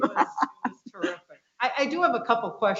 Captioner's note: laughs